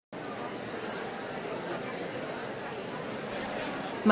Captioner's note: crowd conversing